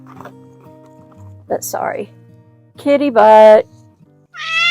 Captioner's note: MEOW! Hiss!